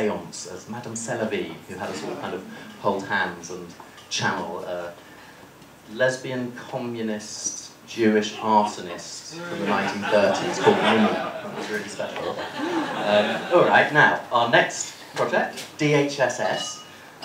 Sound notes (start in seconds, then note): 12.7 laughter